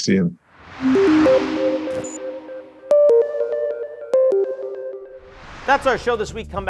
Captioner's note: air whooshing; upbeat music